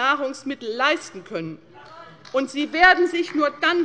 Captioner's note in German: Beifall bei der LINKEN